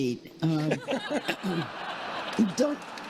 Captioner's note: congregation laughing